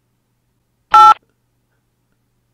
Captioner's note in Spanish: pitido x2 :v